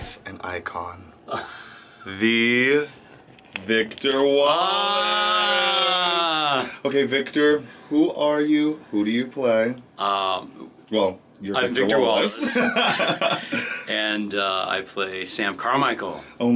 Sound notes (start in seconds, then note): 12.2 laughing